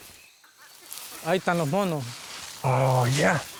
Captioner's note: ranger speaks in foreign language